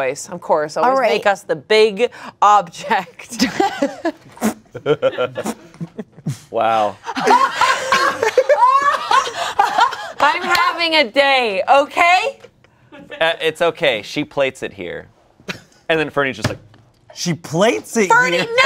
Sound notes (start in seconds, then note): 3.1 everyone laughs; 7.1 laughs